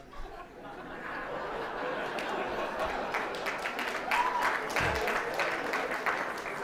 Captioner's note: audience laughing; audience applauding